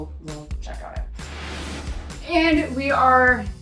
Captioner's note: pan whooshing